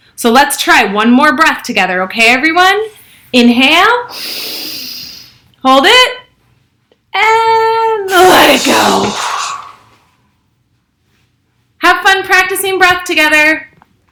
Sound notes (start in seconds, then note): 4.1 inhales; 8.1 exhales